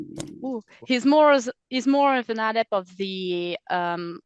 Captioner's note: translating from French